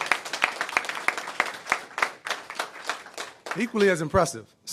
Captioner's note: applause